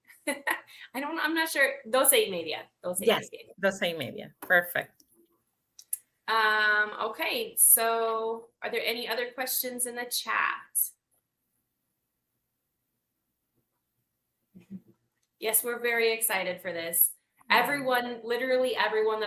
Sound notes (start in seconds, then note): 0.3 laughs; 3.7 speaks Spanish